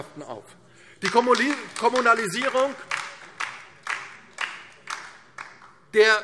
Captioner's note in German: Beifall